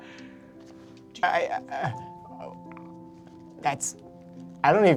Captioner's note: stammering